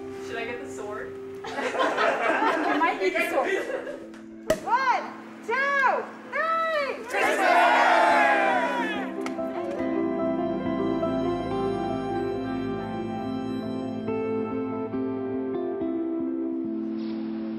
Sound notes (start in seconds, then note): 1.4 crowd laughs; 4.2 cork pops; 8.4 bright music continues